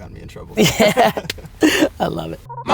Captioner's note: laughing